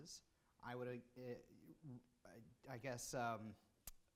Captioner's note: stutters